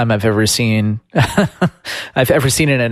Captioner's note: laughs